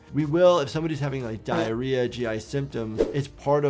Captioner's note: fart erupting